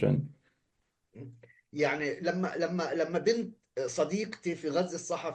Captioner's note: speaking arabic